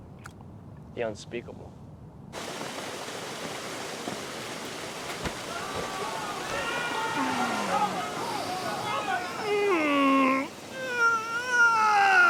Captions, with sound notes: The unspeakable. [boys yelling] [grunting]